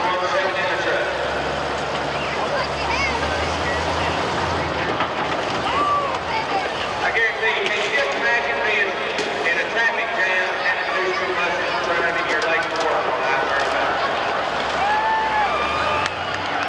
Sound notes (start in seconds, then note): 11.0 voiceover